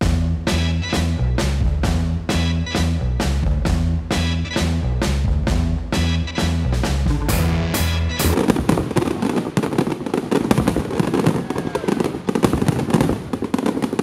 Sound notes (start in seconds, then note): 0.0 energetic rock music; 7.4 fireworks crackling; 8.5 people cheering